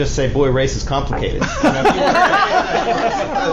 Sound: laughter

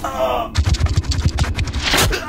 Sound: Papi grunts; scorpion scurries

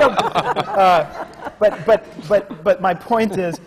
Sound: laughter

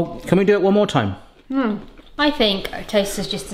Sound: grunts

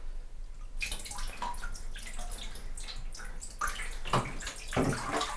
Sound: water dripping

